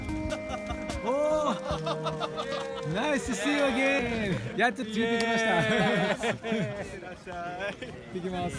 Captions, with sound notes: [Laughter] Nice to see you again!